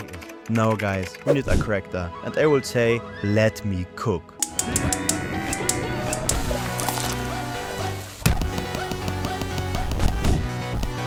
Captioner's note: slurp Sound